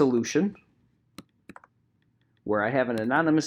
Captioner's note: keyboard clicking